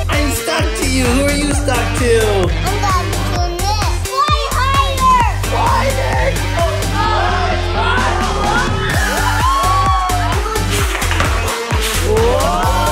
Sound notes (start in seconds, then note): 6.5 group cheering